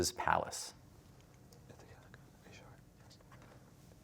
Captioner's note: whispering